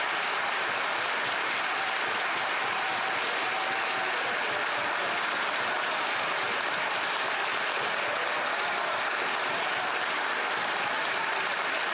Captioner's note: some Applause; applause